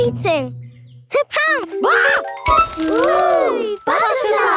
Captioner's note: screams